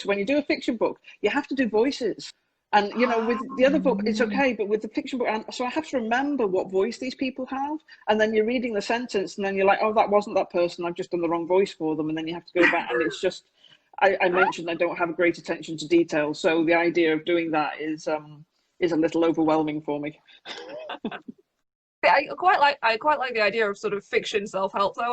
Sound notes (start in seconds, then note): 12.6 laughs; 20.5 laughing